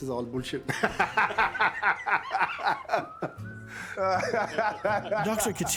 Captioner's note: laughs